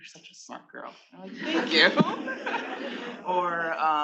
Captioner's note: attendees laughing